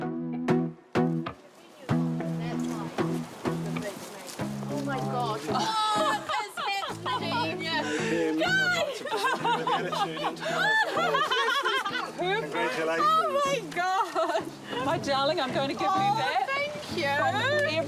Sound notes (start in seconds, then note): 0.0 warm electronic music; 7.7 laughs